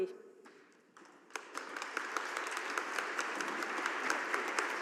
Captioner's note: audience applauding